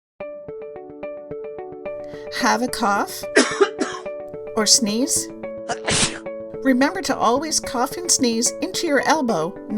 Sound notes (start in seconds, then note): 3.3 person coughs; 5.6 person sneezes